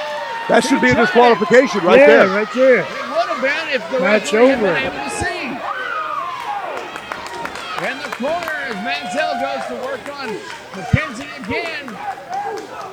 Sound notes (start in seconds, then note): 7.3 clapping